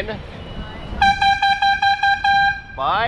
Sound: airhorn

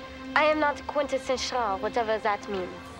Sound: French accent

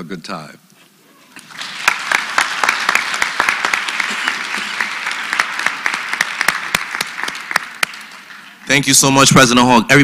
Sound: applause

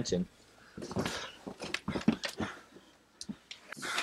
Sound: struggling

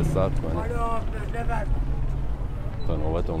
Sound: A man yelling in proximity

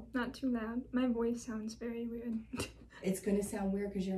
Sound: chuckles

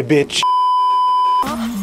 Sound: beeeeeep

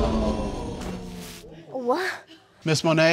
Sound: audience gasping

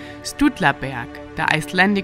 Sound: speaking in Icelandic

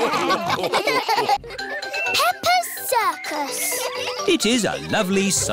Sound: all laugh; children giggling

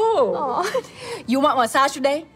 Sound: chuckles

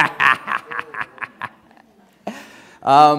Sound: laughs

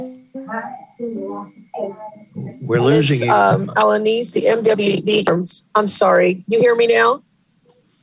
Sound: audio cutting out

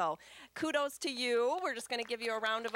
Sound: applause

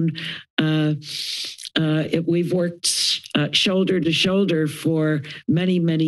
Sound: inhales

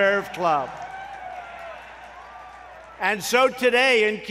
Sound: applause

